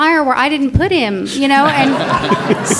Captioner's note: audience laughs